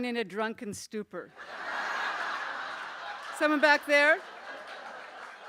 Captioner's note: laughter